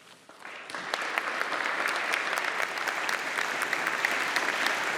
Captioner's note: audience applauding